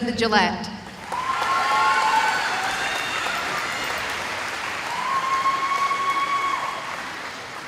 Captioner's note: cheering